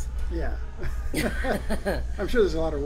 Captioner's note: laughs